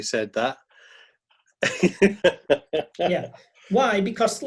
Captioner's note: laughing